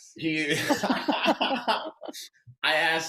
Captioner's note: all laughing